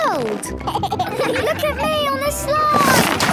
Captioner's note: giggles